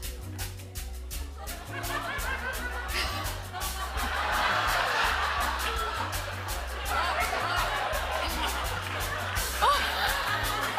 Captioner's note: laughter